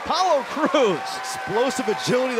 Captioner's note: crowd cheering